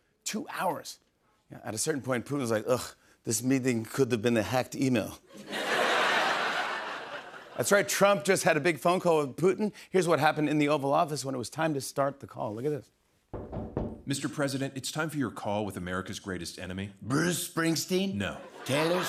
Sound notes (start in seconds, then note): 5.3 laughter; 13.3 knock on door